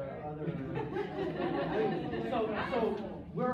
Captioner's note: laughter